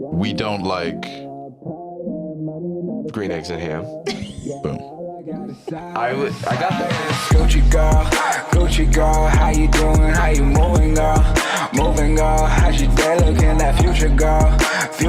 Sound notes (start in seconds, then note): 4.0 laughs; 5.9 outro music